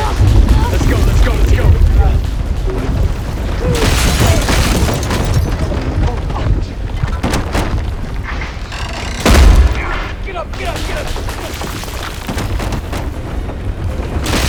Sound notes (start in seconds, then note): 1.9 crashing, glass breaking